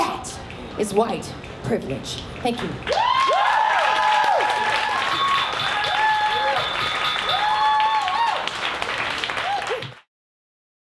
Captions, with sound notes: That is white privilege. Thank you. (audience cheers and applauds)